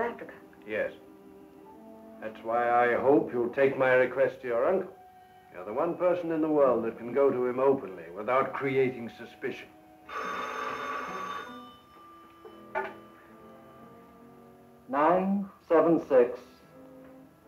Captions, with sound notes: - Yes. That's why I hope you will take my request to your uncle. You're the one person in the world that can go to him openly without creating suspicion. (phone rings) - 976 B28.